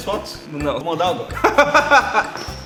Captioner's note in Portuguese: Risos